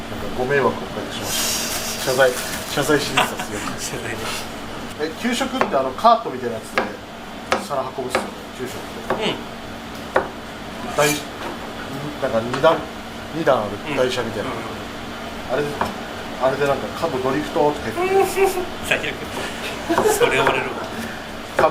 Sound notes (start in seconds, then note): 4.7 laughs; 17.8 laughs